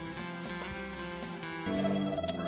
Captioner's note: growling